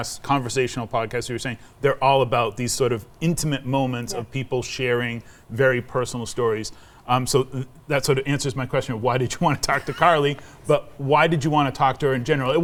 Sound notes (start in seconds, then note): 9.7 chuckling